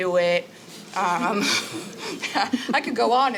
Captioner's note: laughing